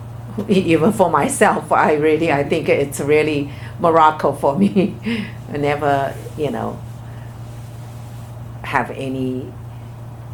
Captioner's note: laughs